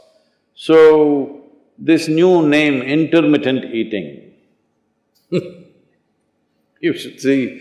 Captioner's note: laughs